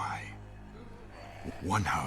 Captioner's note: pirate growling